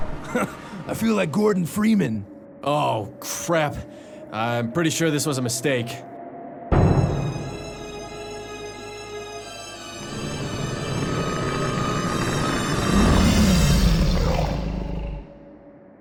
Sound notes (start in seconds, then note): 9.6 Enderman growls